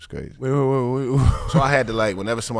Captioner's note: laughs